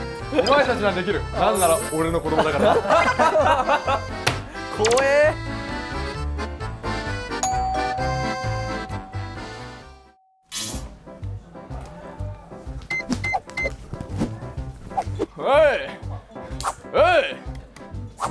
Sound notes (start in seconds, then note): 2.4 hahaha!; 4.1 thump